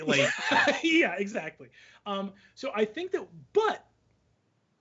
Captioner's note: chuckles